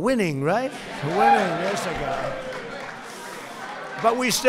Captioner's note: applause